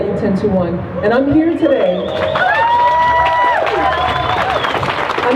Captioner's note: crowd cheering